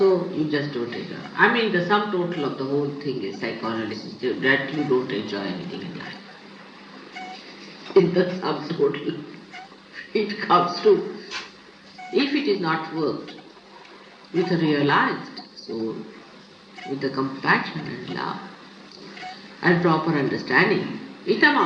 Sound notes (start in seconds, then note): 9.9 she laughs